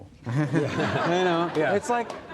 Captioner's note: audience laughs